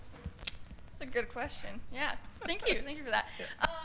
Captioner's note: laughter